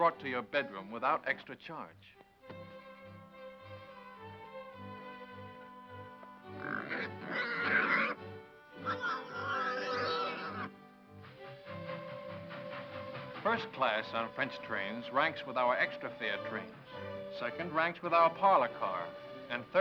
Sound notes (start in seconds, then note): 2.9 slow gentle music; 6.6 pig snorting; 11.6 train horn whistles